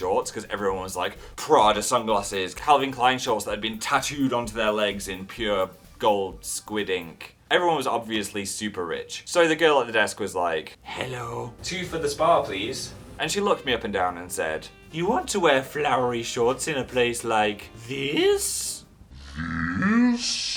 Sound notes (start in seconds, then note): 10.7 weird spa receptionist voice; 11.4 normal voice; 14.6 spa receptionist voice